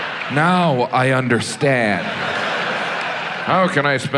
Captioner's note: audience laughs